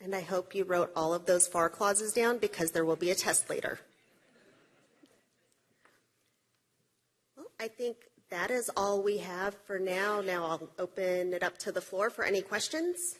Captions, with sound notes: OVER. >> AND I HOPE YOU WROTE ALL OF THOSE FAR CLAUSES DOWN BECAUSE THERE WILL BE A TEST LATER. [LAUGHTER] BE I THINK THAT IS ALL WE HAVE -- I THINK THAT IS ALL WE HAVE FOR NOW.